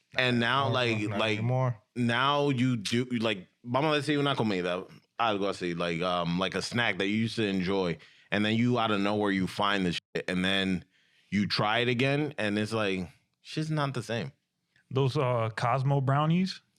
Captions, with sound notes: And now like, now you do, like (Speaking In Foreign Language) I'll go see like a snack that you used to enjoy. And then you out of nowhere, you find the and then you try it again and it's like, she's not the same. Those Cosmo brownies?